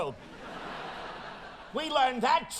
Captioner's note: audience laughing